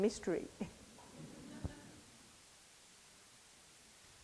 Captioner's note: audience laughs